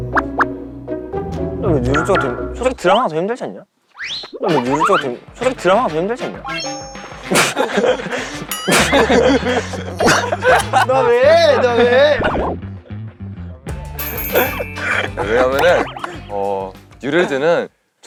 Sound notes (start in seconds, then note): 7.2 laughs out of confusion; 10.1 laughs out of happiness